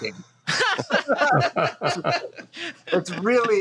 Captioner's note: laughs